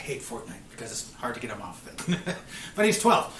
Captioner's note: laughing